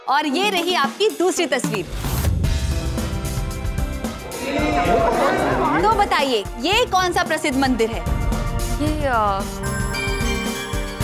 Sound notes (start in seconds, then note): 1.8 suspenseful music plays; 2.2 indistinct chatter